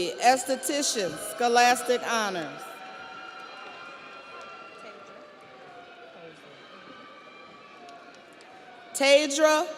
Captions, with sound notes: Queena Elsy, Esthetician, Scholastic Honors. (audience applauds) (audience cheers)